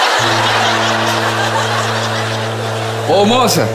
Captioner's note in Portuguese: buzina de navio